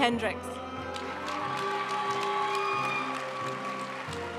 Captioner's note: audience cheering and applauding; graduation music